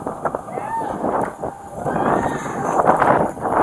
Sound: screaming

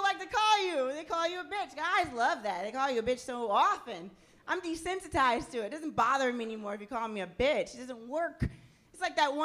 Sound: none

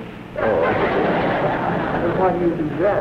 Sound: laughter

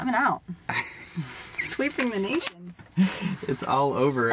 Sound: laughing

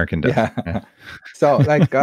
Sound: laughing

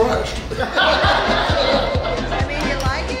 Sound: hahaha

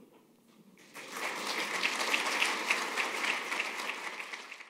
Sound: applause

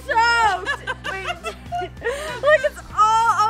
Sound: laughing

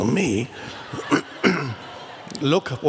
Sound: crowd laughs

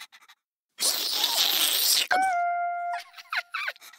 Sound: slurping; laughing

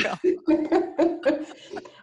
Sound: laughter

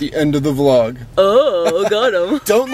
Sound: chuckles

